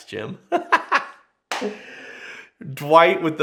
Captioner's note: laughs loudly